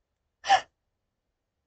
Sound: yelp

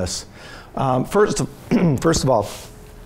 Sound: clears throat

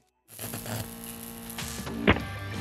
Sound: electricity buzzing; receiver clicks

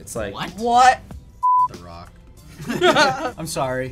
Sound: laughter

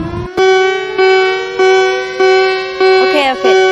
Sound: tornado siren; EAS alarm

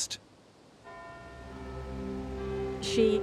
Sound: bell tolls

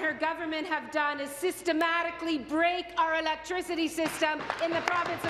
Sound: applause

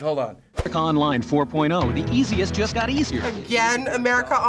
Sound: voice-over

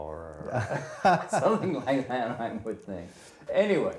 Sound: laughs

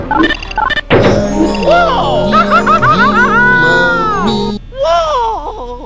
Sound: Mario Screaming

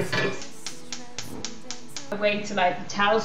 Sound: electric burner ignition

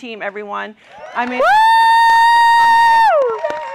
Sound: cheering

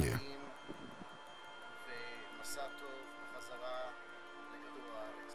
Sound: speaking hebrew

